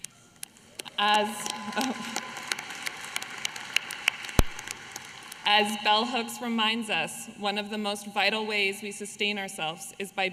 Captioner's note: applause